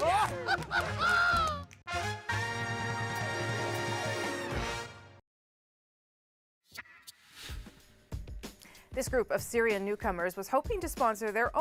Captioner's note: laughing